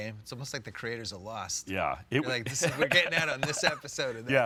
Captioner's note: laughs